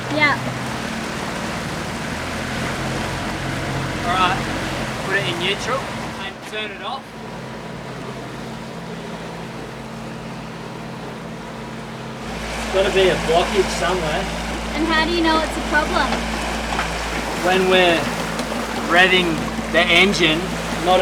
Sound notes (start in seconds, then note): 2.0 boat motors rev up; 7.7 boat motors quiet down